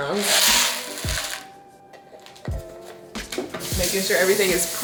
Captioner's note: crumbs clattering